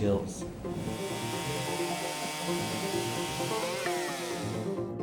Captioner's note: tree cutting